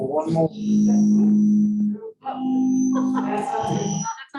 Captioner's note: audio failure